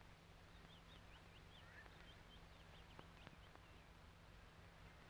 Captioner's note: birds chirping